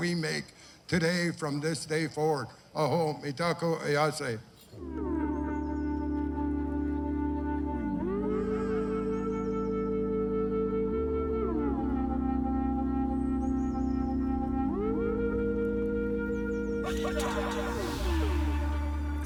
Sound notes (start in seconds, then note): 3.7 speaking Lakota